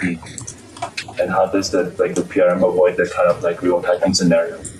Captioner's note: ? typing ?